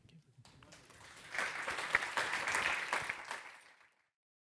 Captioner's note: audience applauds